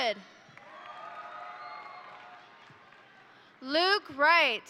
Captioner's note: crowd applauding; crowd cheering